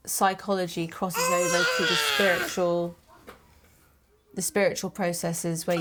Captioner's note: baby Crying